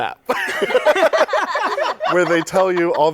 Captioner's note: laughter